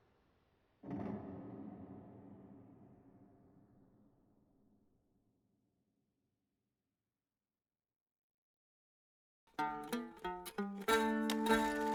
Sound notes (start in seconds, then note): 5.6 silence